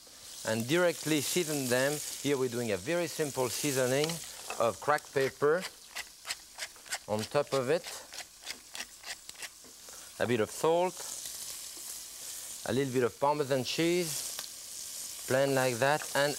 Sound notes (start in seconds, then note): 8.0 pepper cracking; 10.6 salt sprinkling; 11.4 pan sizzling